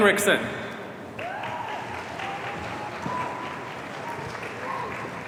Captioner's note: audience cheering